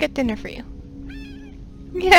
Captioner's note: meow